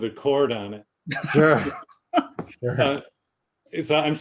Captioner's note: laughing